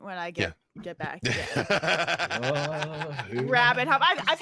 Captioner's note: DM laughs